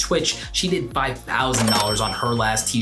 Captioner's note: cash register dings